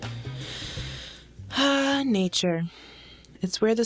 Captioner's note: sigh